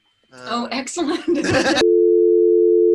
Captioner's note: laughter